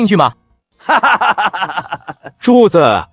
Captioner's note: laughter continues